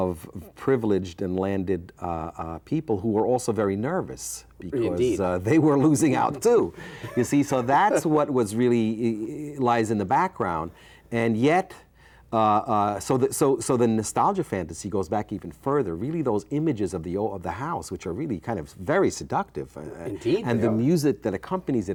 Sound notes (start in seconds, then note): 6.8 chuckles